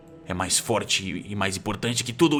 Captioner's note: none